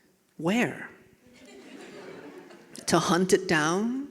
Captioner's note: audience laughing